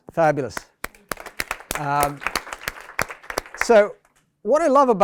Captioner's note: applause